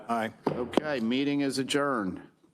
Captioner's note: gavel thuds